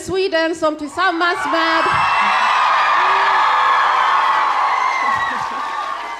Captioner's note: audience cheering